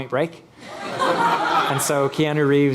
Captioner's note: laughing